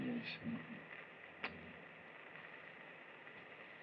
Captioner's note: smooches